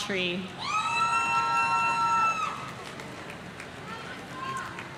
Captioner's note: audience cheering